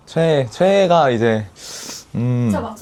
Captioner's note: inhales